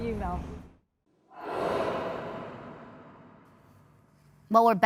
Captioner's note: sound effect